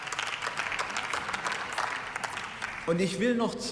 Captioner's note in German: Beifall